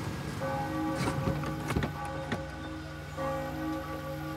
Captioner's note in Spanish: campanadas